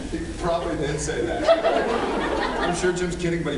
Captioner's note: laughs